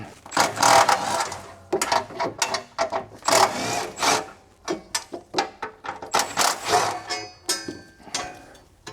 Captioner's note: drilling